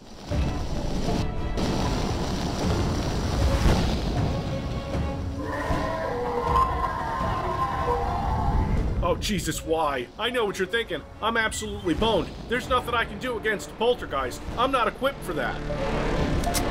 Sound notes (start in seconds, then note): 0.3 tension music; 5.4 monster screaming; 16.4 tension music